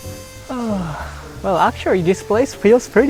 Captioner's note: sigh